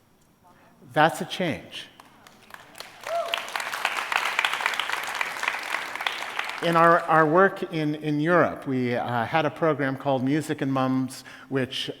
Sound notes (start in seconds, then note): 2.0 applause